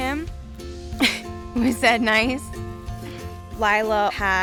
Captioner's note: laughing